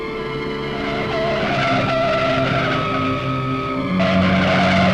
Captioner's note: tires screeching